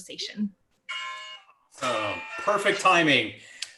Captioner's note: phone ringing